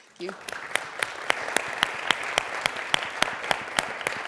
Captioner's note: audience claps